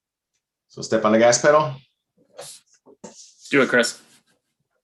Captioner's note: speaking in foreign language